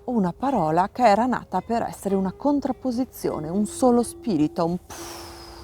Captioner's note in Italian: soffio